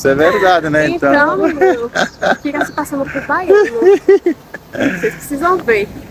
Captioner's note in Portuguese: risadas